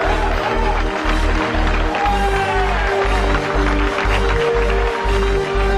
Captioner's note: applause